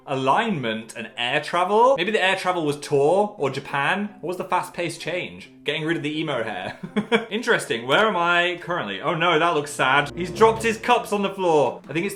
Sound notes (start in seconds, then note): 7.1 laughs